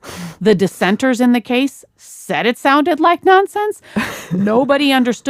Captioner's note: laughs